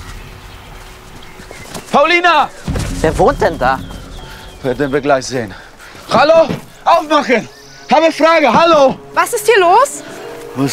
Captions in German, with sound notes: (Ruft:) Paulina! Wer wohnt denn da? - Werden wir gleich sehen. Hallo! Aufmachen. Habe Frage. Hallo. Was ist hier los?